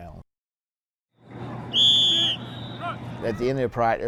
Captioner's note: whistle blows